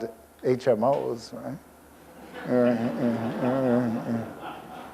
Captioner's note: audience laughs